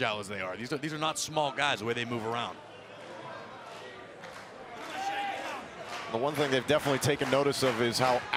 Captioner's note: crowd cheering